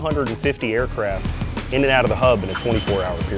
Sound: airplane engine revving

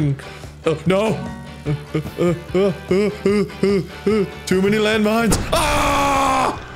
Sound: grunting

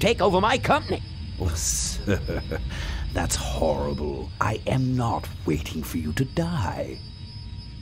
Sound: laughs

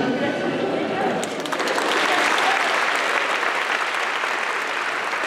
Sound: applause

